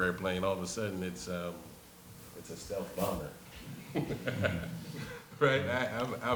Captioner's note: laughs